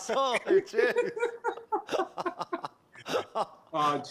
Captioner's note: laughter